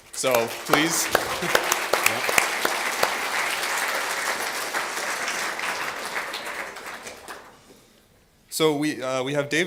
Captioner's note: applause